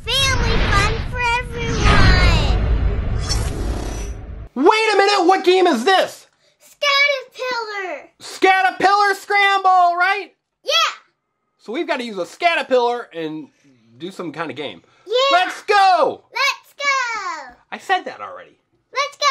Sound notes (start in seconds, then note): 2.4 wind rushing; 3.1 metal slicing